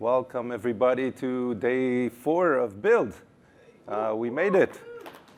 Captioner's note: cheers